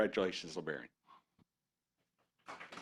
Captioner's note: applause